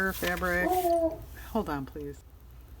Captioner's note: dog barks